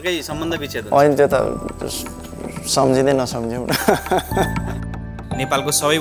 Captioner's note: laughter